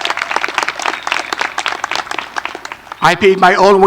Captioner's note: applause